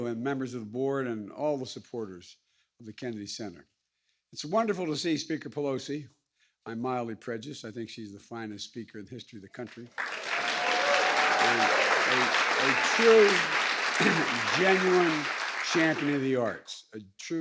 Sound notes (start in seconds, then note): 9.6 applause